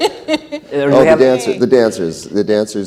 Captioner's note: laughs